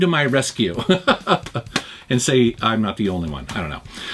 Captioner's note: laughs